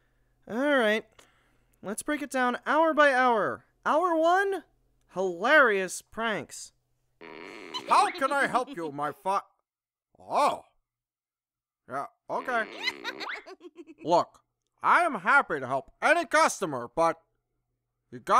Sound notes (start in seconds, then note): 7.8 SPINEL giggling; 12.4 SPINEL giggling